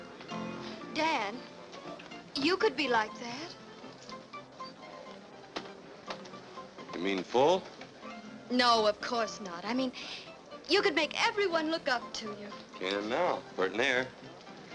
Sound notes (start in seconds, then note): none